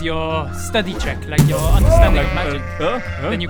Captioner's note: bang!; baaaaaaaa